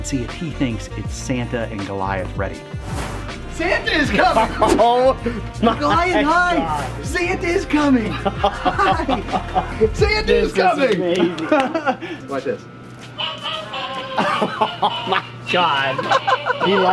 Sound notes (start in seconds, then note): 3.7 laughs; 13.5 hat sings Christmas song